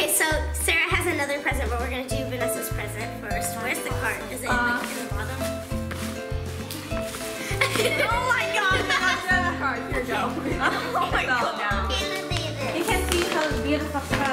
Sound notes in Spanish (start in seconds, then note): 9.9 risa